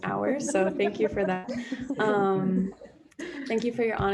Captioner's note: group laughing